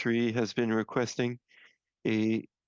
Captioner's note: speaking French